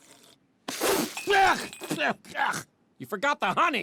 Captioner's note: spitting